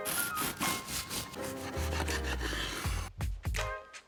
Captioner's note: upbeat music; knife scrapes